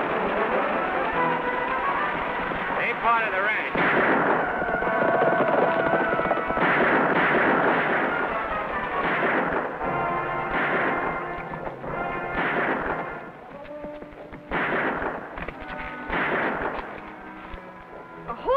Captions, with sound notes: Ain't part of the ranch. (guns fire) (dramatic music) (guns fire)